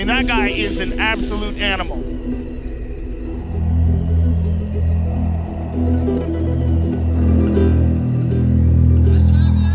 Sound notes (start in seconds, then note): 5.6 dramatic stringed music; 5.6 wind whooshing